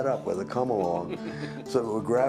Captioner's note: laughing